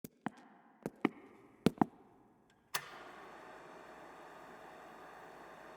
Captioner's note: projector clicks